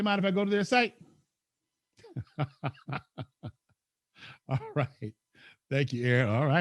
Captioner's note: laughs